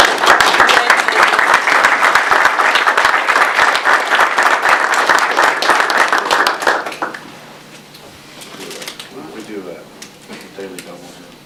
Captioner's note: audience applause